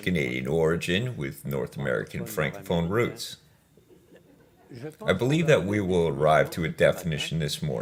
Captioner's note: laughs